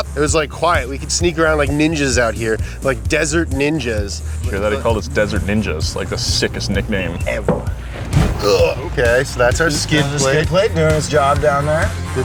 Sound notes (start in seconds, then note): 9.1 groans